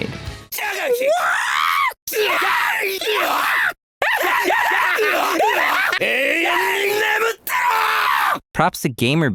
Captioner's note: hideous Adon screeching